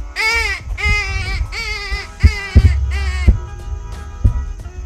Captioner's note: rabbit distress call